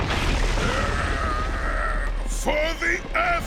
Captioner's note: grunting